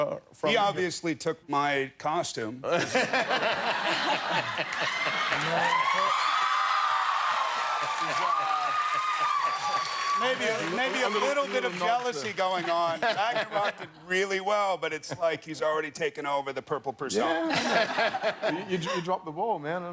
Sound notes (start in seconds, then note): 2.7 laughter; 9.1 cheers and applause